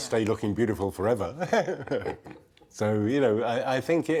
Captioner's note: chuckling